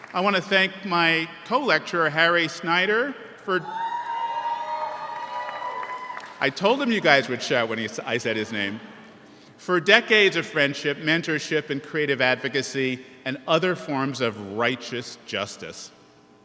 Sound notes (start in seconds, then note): 3.6 audience cheers